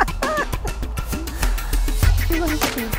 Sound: laughs

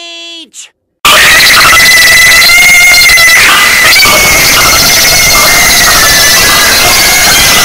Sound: super loud inkling ear rape

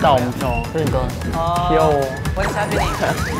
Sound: excited

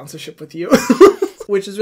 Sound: laughing

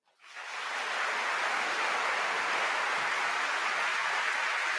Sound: audience applauding

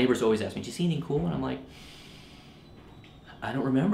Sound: inhales

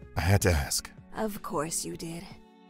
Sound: dryly

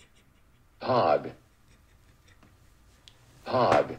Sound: laughter

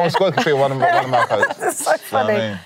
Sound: laughter

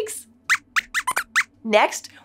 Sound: squeaks squeaks

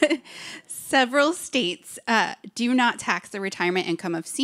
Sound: laughs

